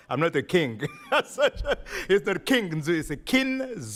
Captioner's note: laughing